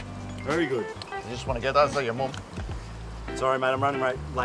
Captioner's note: phone rings